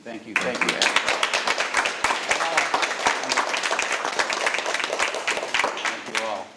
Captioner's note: all applauding